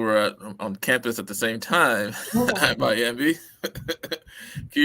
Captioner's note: laughter